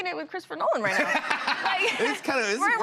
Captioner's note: laughter